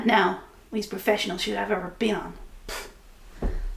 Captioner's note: pfft